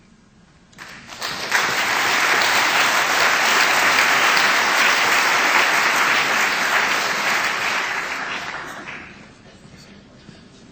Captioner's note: applause